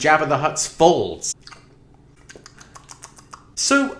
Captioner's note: incoherent lip smacking